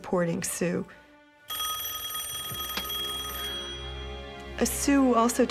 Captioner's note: phone ringing